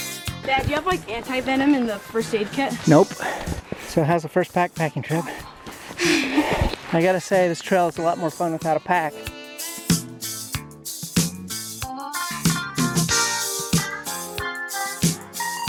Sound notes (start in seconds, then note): 5.2 laughs